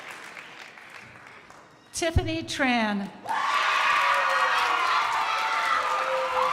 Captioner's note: crowd applauding